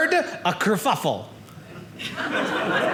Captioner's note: audience laughing